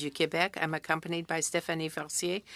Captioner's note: speaking French